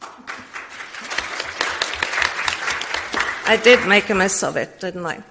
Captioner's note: audience applauds